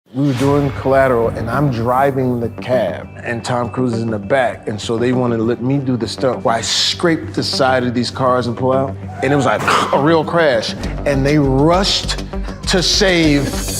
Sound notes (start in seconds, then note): 8.9 tires screeching; 13.5 dramatic music